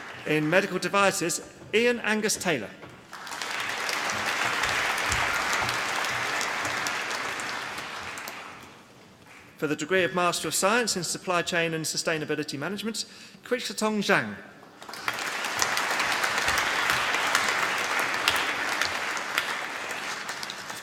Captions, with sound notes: In Medical Devices, Iain Angus Taylor. (APPLAUSE) For the Degree of Master of Science in Supply Chain and Sustainability Management, Qiuxiaotong Zhang. (APPLAUSE)